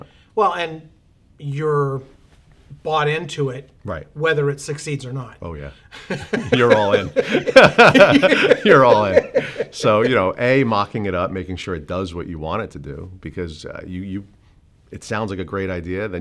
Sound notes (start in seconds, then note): 6.0 laughs